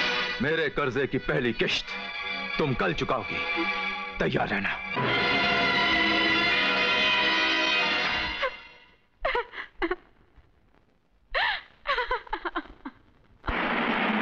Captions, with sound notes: You will pay the first installment of my debt tomorrow. Be prepared. (Sobbing)